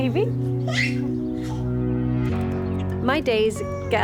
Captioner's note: laughs; baby squeals